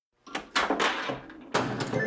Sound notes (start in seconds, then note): 0.2 pinball plunger snaps